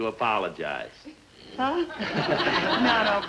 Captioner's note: audience laughing